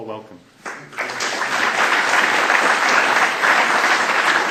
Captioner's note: applause